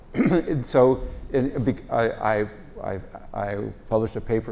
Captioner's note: cough